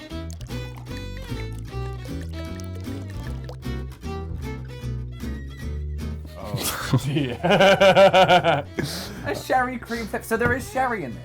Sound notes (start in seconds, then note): 0.1 warm festive music; 6.4 laughs